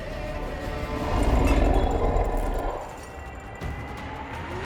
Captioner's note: growling